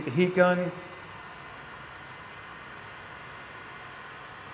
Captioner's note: heat gun whirring